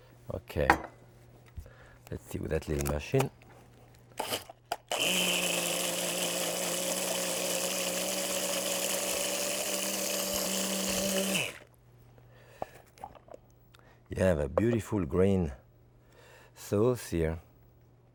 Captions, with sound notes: Okay. Let's see with that little machine. (machine whirs) You have a beautiful green sauce here.